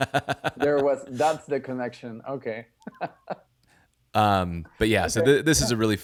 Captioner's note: laughing; laughs